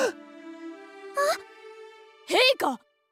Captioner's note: gasp